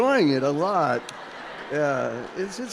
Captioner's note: audience laughing